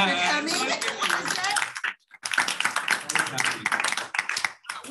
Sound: applause

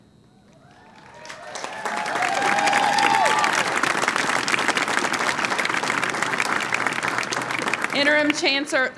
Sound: cheering and applause

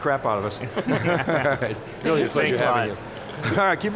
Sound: group laughs

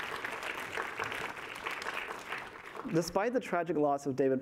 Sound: applause

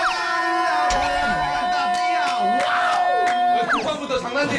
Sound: shouting out of joy

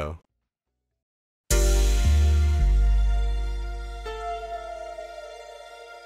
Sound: heavy tone

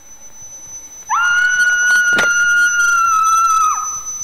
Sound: feedback; woman screaming; feedback fades away

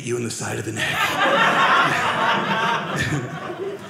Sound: audience laughing

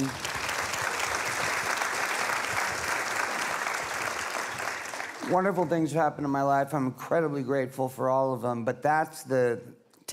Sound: applause

